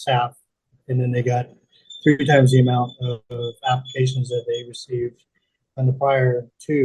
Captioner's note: bird call in background